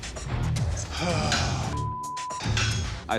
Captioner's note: sighing